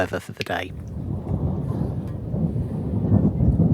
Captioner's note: multiple rumbles of thunder